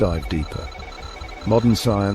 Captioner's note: beeping